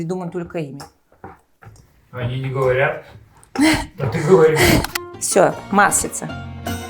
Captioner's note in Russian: закадровый голос